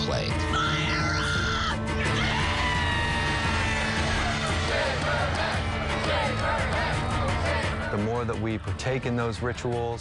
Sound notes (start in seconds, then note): 2.8 all shouting; 4.5 band chanting "Shave her head"